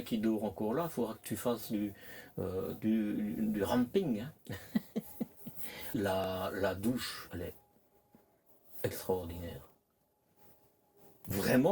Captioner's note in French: rires